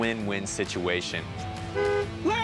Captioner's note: horn honks